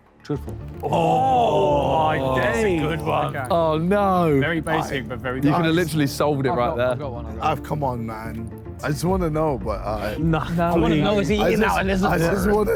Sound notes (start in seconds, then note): 0.0 dramatic music; 0.8 Sidemen groan